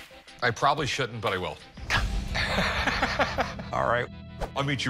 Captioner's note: both laugh